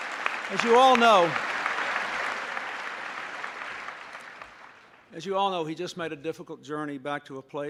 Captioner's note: applause